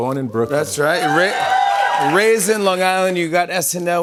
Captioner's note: cheers and applause